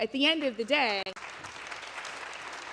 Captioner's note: applause